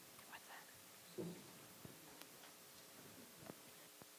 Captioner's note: whispers